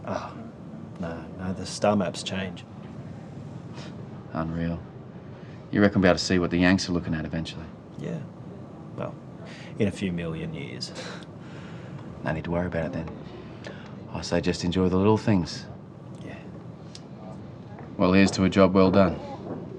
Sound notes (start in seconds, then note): 10.4 chuckles